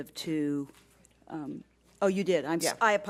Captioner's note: whispering